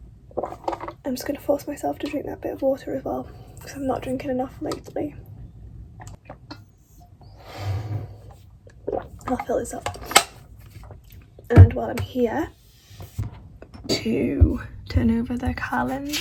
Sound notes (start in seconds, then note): 8.8 gulp